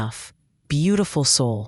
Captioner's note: pause